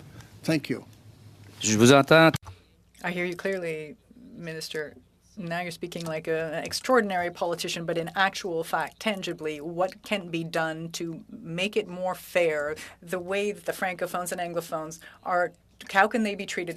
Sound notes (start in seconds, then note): 6.5 speaking French